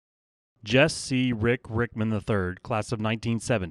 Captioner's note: voiceover